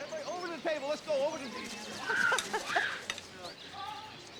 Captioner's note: laughing